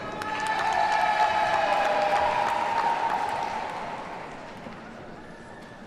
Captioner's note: audience cheers and applauds